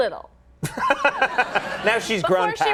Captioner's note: audience laughing